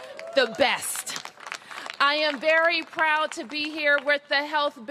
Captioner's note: applause